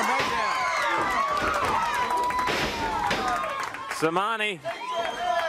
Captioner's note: crowd cheering